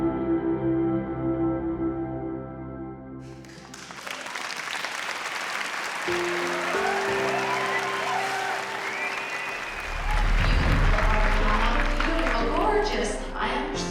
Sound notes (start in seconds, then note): 3.9 applause